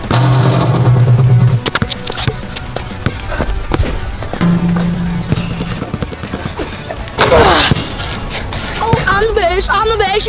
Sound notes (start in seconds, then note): 0.1 ball clanging rim; 1.7 ball bouncing; 3.9 whooshing; 4.4 ball clanging rim; 6.2 ball bouncing